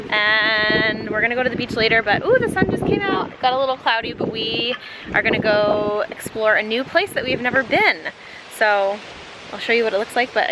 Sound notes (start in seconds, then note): none